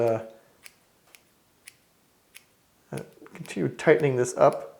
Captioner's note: clipping sounds